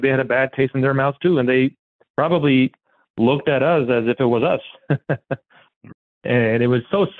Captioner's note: laughs